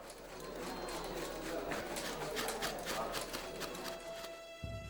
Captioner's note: bristles brushing